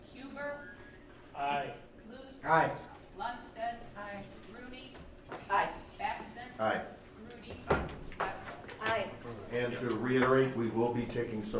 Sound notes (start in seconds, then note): none